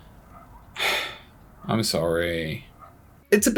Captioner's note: sad sigh